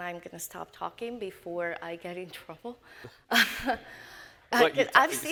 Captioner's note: chuckles